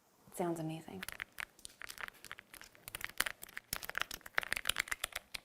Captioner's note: mechanical noise